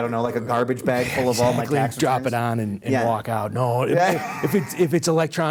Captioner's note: laughing